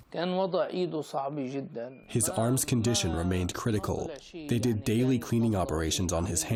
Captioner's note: through translator